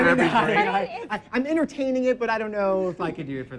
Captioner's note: laughs